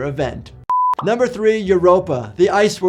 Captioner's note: beep